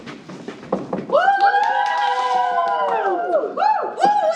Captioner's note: cheers